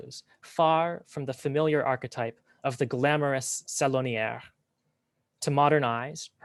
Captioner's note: french